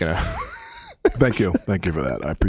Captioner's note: laughs